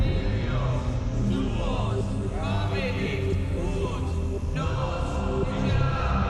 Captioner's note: chanting in foreign language